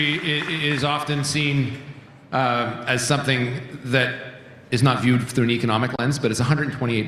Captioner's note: cheering and Applause